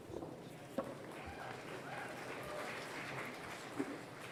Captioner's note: applause